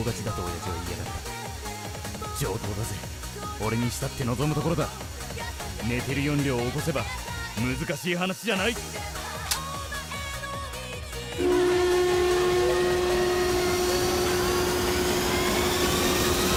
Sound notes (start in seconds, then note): 9.4 click!; 11.2 starts gas turbine engine